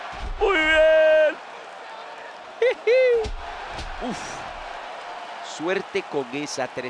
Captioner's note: laugh